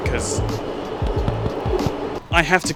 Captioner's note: knowing taps